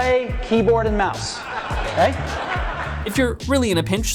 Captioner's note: audience laughs